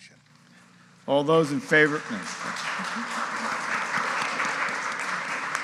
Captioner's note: audience applauding